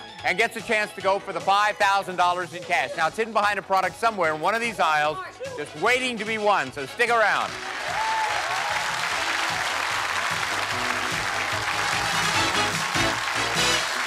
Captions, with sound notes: and gets a chance to go for the $5,000 in cash. Now, it's hidden behind a product somewhere in one of these aisles just waiting to be won. So stick around. (cheers and applause) (upbeat music)